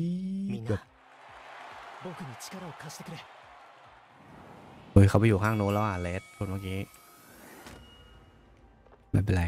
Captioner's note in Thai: ปรบมือ